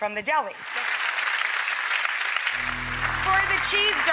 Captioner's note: applause